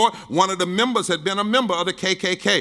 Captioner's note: none